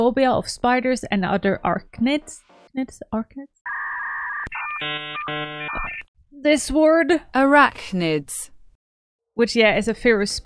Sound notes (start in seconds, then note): 3.6 distortion sounds; 6.7 text to speech: arachnids